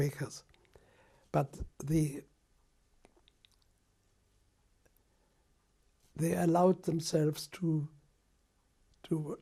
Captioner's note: pauses for 3 seconds